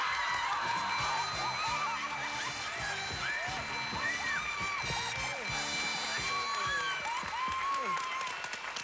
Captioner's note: audience applauding